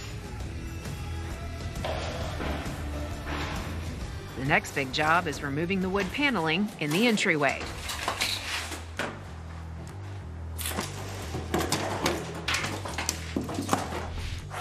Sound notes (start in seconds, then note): 0.2 light rock music; 8.0 wood clattering